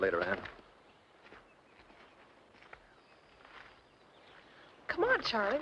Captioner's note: birds chirping